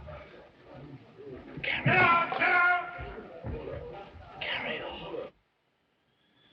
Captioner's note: man shouting